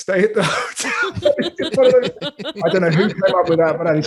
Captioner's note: laughs quickly